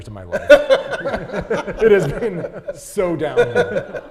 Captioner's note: laughing